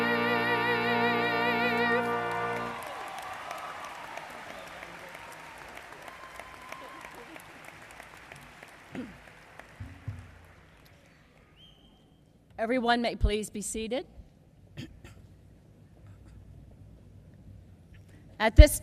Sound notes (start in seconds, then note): 3.8 applause